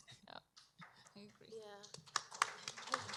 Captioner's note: applause